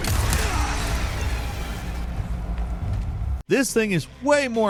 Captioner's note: gunshots